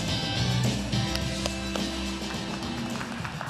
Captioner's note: upbeat music; applause